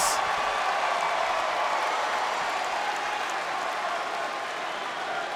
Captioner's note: crowd cheers and claps